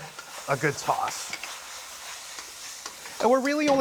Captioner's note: sizzling